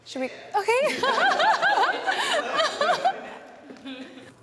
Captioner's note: laughing